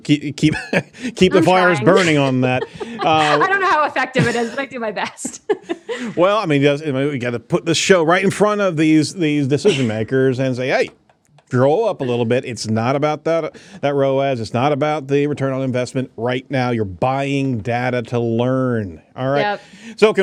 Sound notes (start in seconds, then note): 3.6 laughs